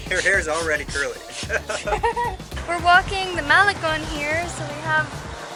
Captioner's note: laughter